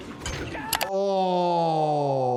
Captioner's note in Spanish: personaje gritando